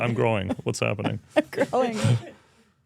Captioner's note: speaker laughs